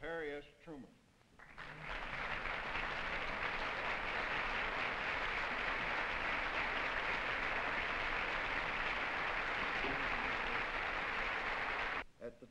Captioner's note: applause